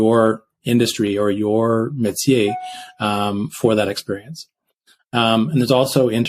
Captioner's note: speaks in French